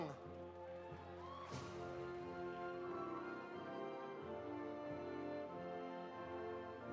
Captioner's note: audience applauding; audience cheering